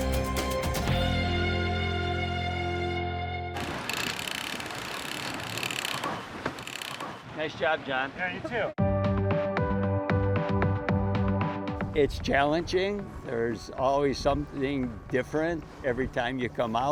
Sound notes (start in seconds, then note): 0.0 energetic music; 7.0 sail mechanism cranking; 11.4 soft upbeat music